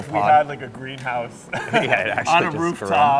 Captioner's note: chuckling